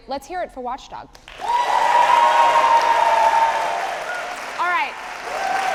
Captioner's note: audience applauding